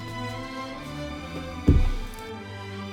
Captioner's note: floor thuds